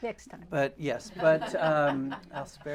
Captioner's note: laughter